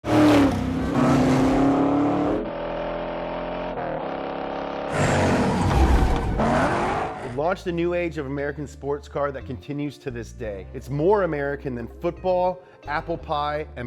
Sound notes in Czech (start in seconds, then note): 0.0 řev motoru; 5.9 pískání pneumatik